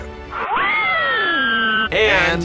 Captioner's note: banshee scream